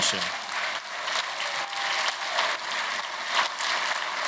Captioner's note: applause